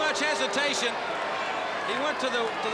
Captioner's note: crowd cheering